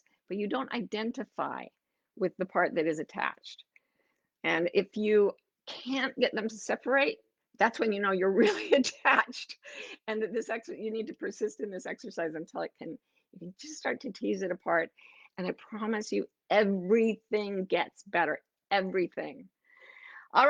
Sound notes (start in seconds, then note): none